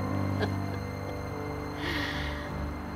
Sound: chuckles

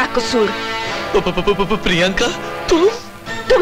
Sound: stutters

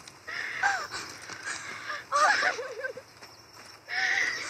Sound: cry of joy and hug; sigh of relief; sounds of footsteps

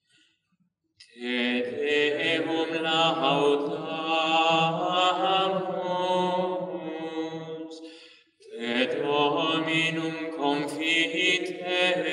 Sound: chant

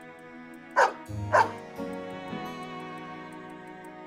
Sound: bark bark

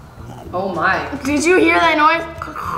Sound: gurgling

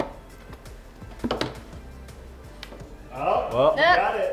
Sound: thumping

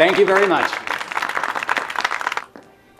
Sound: applause

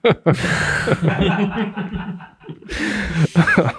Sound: all laughing

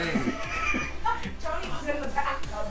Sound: laughs

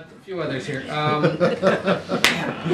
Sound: laughter

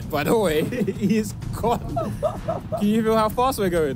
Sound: laughing

